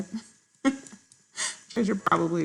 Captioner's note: laughs